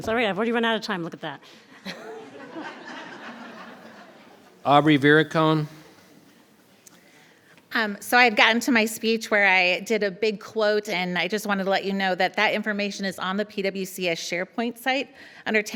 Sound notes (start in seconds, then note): 3.3 audience laughing